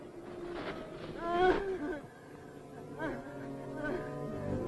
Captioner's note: woman moaning nearby